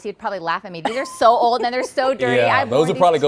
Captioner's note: laughter